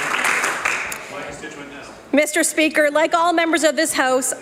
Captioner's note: applause